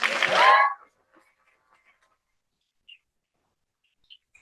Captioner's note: cheering